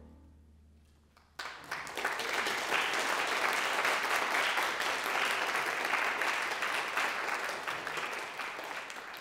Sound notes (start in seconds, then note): 1.1 audience applauding